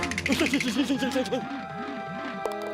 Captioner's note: nervous stammering